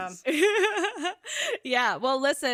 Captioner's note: laughs